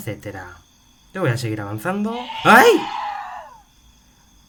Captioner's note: grunt